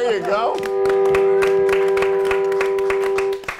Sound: applause

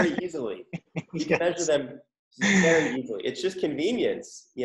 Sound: laughing

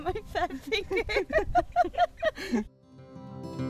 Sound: laughter

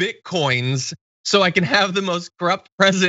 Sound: laugh

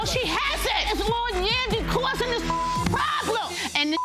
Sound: beep

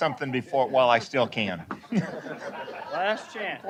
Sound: laughter

